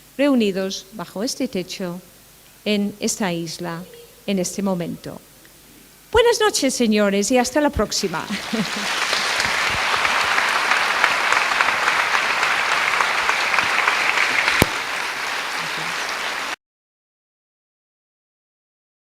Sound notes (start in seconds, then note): 10.4 applaude